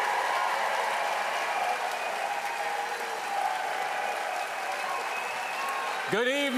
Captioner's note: applause